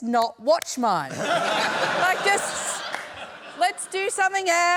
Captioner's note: laughter